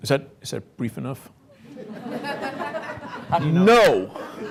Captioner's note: laughter